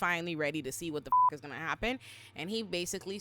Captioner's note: beep